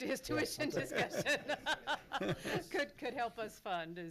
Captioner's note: laughs